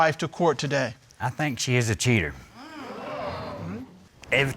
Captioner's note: crowd gasping